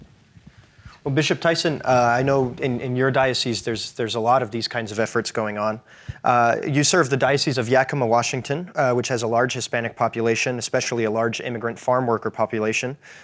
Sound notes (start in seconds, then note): none